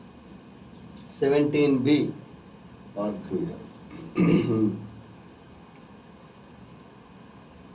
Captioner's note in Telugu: గొంతు సవరించుకోవడం